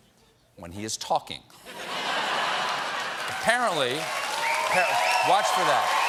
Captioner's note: laughter; cheers and applause